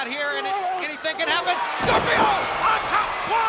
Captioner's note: body thudding